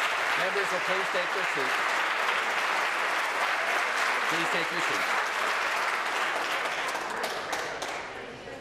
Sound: applause

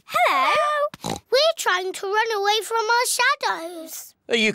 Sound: oinks

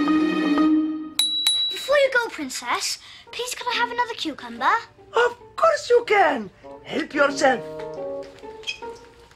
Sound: bell rings

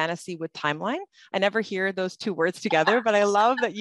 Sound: laughter

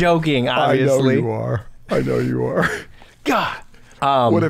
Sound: chuckles

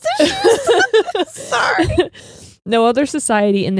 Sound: laughs

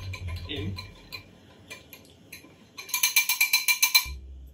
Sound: whisk clinking

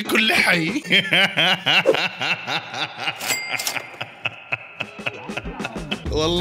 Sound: laughter

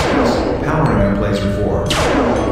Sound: laser firing sound; laser firing sound

